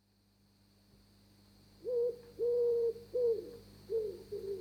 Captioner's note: owls, crickets, electric buzz